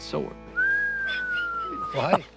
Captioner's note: Jase whistling